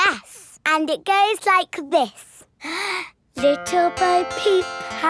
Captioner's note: inhales